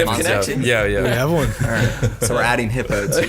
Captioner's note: all laughing